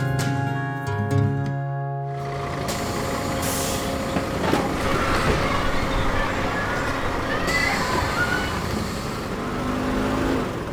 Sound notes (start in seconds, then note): 2.1 school bus sounds; 7.2 kids noises